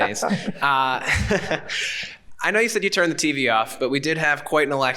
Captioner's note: John laughing; chuckles